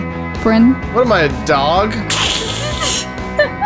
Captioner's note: voiceover; laughs